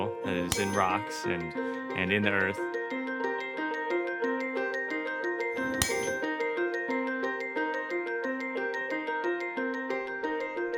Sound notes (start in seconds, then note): 0.5 metal clinking; 3.3 soft music continues; 5.5 metal clinking